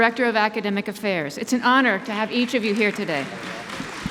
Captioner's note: applause